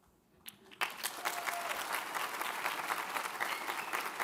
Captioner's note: audience applauds